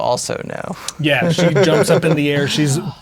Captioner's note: laughing